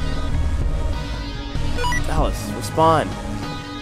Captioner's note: on the Radio